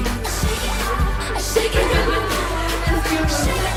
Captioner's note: laughter